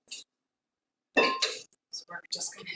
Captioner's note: metal clanking